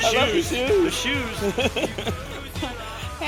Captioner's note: laughing